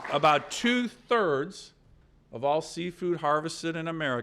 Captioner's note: applause